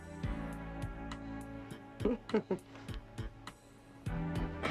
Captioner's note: chuckling